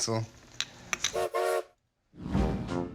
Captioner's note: train whistle toots